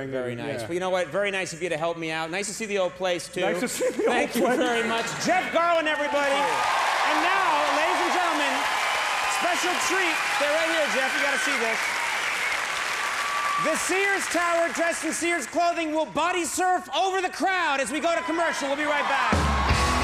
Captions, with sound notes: Very nice, well know what, very nice of you to help me out. Nice to see the old place too. Nice to see the old place (laughter) Thank you very much. Jeff Garlin everybody! (audience cheers and applauds) And now, ladies and gentlemen, special treat-- Stay right here Jeff, you gotta see this. (cheers and applause) The Sears Tower dressed in Sears clothing will bodysurf over the crowd as we go to commercial, we'll be right back.